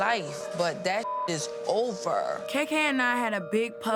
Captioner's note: beep